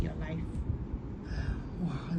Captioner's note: exhales